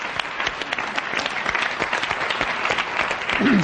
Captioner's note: applause